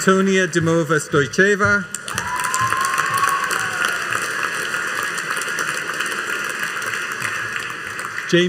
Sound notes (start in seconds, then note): 2.0 audience cheering and applauding